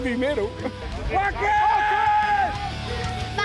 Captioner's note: fans screaming